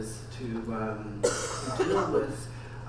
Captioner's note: audience member coughs